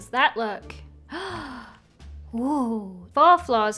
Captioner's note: gasps